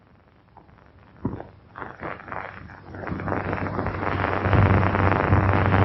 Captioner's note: thunder; thunder